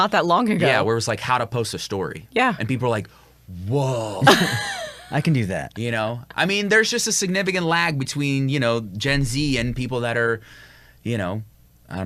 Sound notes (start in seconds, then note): 4.2 laughs; 4.2 chuckles